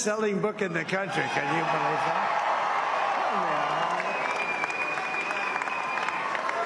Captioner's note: cheers and applause